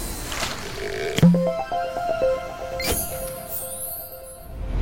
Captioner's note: playful chime